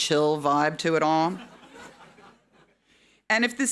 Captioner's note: audience laughing